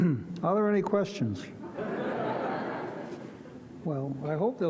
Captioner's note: audience laughs